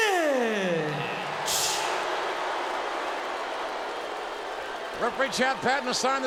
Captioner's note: audience booing